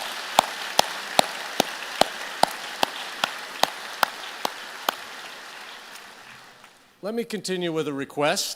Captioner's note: applause